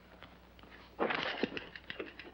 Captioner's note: mattress creaking